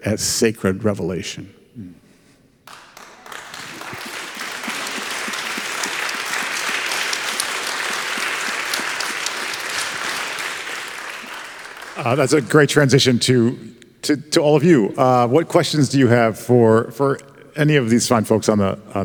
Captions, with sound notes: as sacred revelation. (congregation clapping) - That's a great transition to all of you. What questions do you have for any of these fine folks